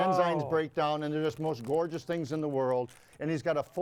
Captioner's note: none